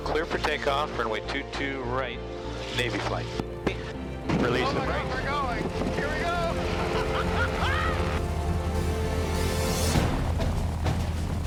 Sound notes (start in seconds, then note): 6.1 laughs